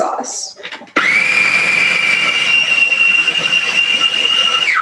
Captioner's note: processor whirring